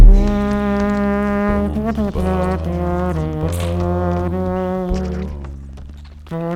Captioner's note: weird, mouth music